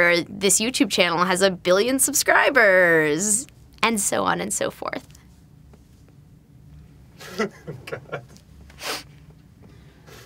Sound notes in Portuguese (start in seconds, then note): 7.2 Risos